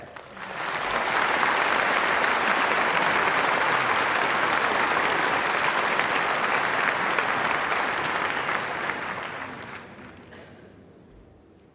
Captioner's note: applause